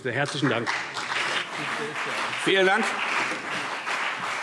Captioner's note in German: Beifall CDU und BÜNDNIS 90/DIE GRÜNEN